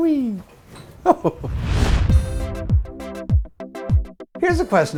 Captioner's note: laughs; swoosh / music plays